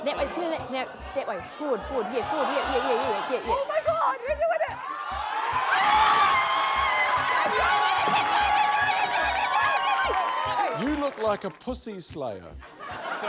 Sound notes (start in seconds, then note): 4.6 raucous cheering; 12.6 laughter